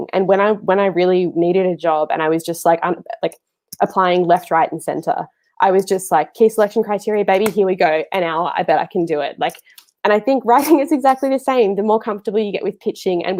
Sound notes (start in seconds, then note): 7.4 clapping hands